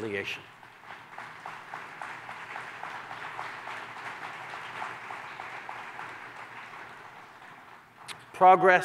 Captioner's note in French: Applaudissements